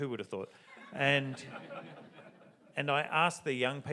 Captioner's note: audience laughs